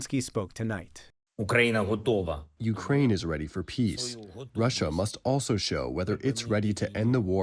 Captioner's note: through translator